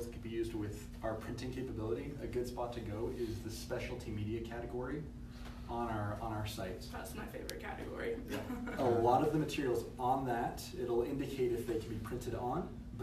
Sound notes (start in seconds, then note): 8.5 laughs